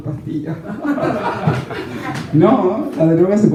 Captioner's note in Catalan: rialles